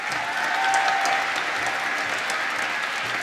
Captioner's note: applause